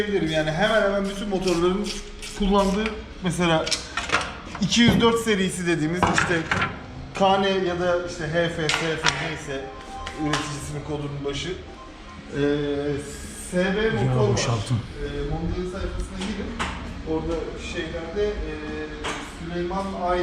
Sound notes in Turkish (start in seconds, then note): 11.1 telefon görüşmesi